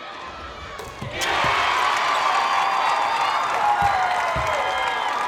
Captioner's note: crowd cheers and applauds